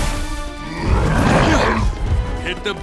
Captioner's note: growling